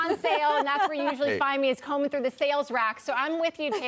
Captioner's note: laughter; laughter